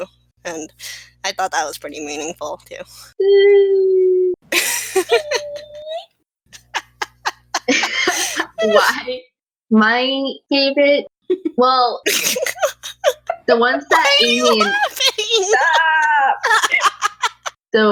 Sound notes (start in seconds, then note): 3.4 sad noises; 6.5 laugh; 6.5 laughing; 12.0 giggling; 12.0 laughing; 13.9 growing laughter; 16.8 laughter